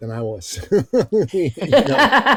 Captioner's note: laughing